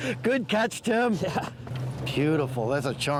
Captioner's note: chuckles